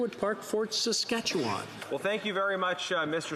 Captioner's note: speaking French